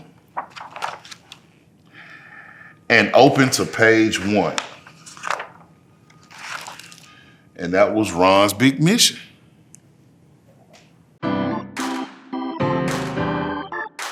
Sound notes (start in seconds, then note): 0.2 pages rustling; 6.1 pages rustling; 11.3 upbeat R&B music playing